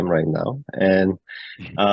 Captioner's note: laughs